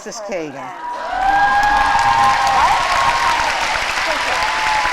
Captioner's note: applause